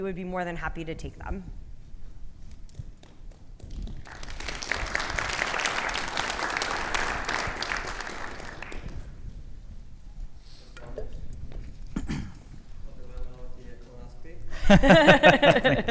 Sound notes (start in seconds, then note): 3.8 audience applauding; 11.8 clearing throat; 14.5 both laughing